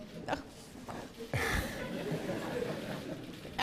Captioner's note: laughs